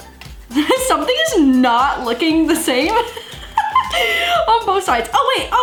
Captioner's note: laughs